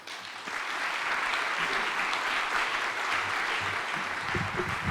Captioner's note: audience applauding